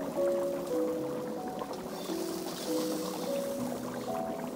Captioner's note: bubbling